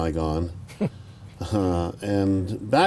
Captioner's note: chuckles